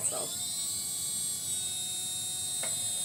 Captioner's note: whirring sound